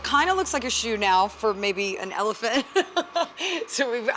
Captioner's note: laughs